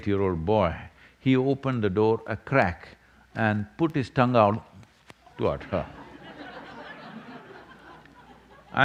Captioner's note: laughter